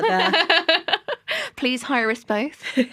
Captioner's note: laughter